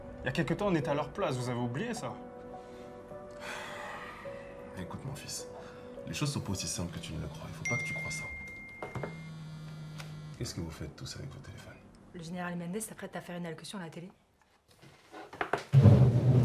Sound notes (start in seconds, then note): 3.3 sighs; 7.7 phones buzzing and ringing